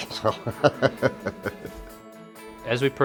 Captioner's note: laughing